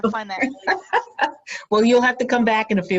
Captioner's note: laughing